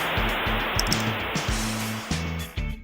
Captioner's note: mouse Double Clicks